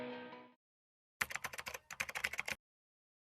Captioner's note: keyboard clacking